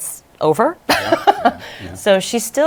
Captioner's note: laughs